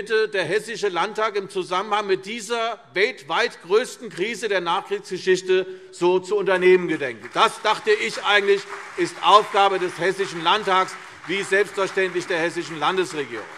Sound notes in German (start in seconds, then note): 7.0 Beifall CDU und BÜNDNIS 90/DIE GRÜNEN